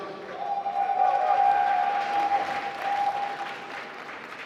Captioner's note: applause